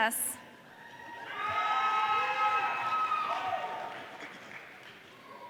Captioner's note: audience cheering